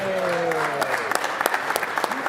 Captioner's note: applause